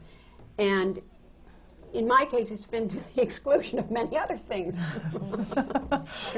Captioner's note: laughs